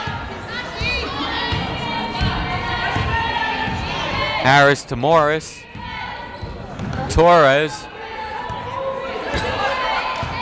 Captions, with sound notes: (yelling) Harris to Morris, Torres.